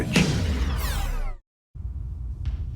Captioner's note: zoom sound